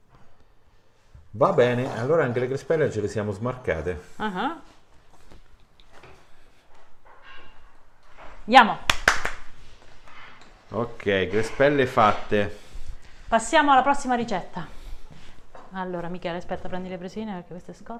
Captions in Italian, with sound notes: Va bene allora anche le crespelle ce le siamo smarcate [Applauso] Ok crespelle fatte passiamo alla prossima ricetta Allora Michele Aspetta prendi